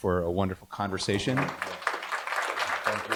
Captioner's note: applause